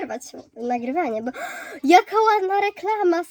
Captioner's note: niespodziewany wsys powietrza